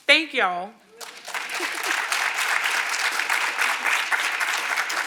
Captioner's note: audience applauding